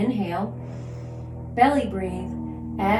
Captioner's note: inhales